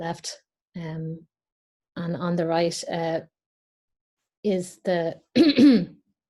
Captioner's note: coughs